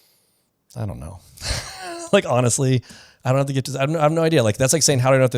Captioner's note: laughs